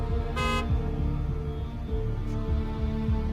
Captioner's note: car beeps